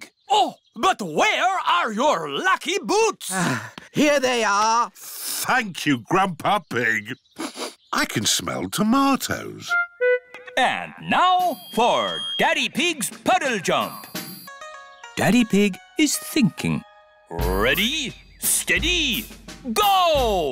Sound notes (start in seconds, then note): 3.3 sighs; 7.3 sniffs